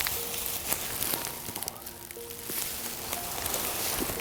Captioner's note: grass rustling